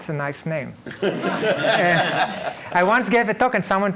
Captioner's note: laughing